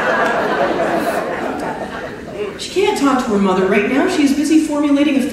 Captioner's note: laughter